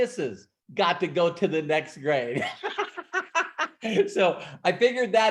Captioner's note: laughs